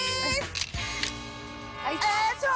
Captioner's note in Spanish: Clic